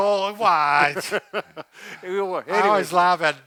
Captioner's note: laughing